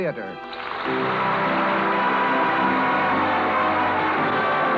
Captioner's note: applause